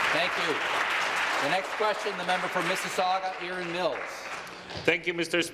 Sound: applause

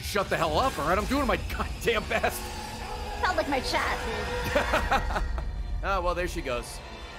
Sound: laughs

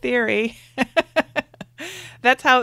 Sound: laughs

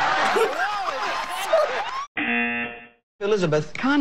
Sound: giggling; buzzer

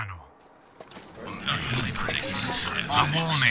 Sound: mumbles excitedly

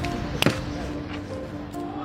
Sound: thud

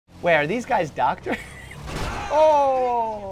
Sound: laughs

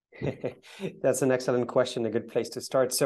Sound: laughs

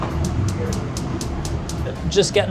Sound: gas stove clicking

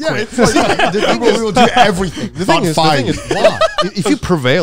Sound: group chattering

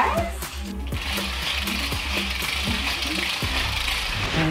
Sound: weight clicking

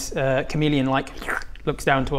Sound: slurp

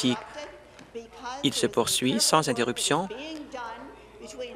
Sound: some applause

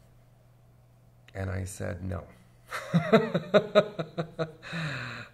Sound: laughs

